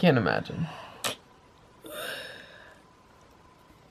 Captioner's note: yawn